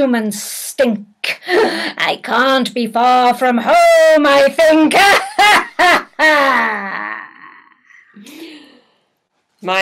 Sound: demonic laughter

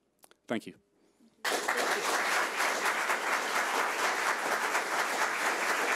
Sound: audience applauding

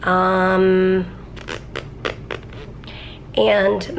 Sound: blows raspberry

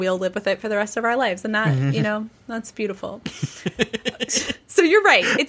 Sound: laughing

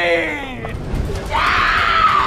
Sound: shrieking

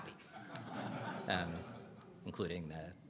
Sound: audience laughing

